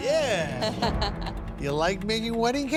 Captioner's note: laughing